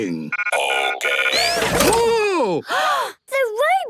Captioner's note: exclamations